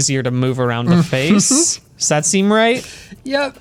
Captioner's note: pat